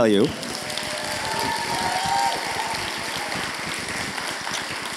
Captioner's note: audience applauding